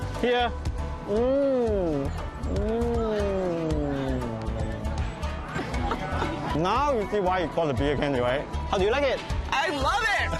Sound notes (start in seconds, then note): 5.4 laughing